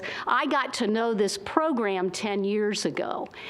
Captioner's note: none